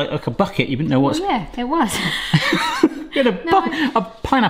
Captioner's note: both laughing